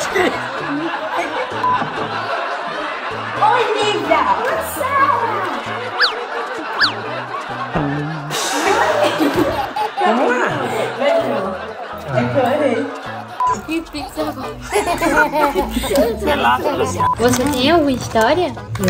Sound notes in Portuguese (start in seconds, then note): 5.9 apito deslizante; 8.5 risadas; 13.6 risada de bebê